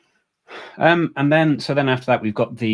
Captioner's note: sighs